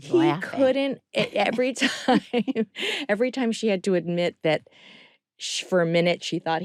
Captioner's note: chuckling